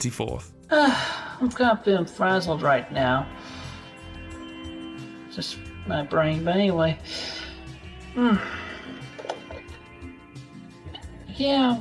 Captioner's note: sigh